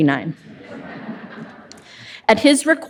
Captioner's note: audience laughs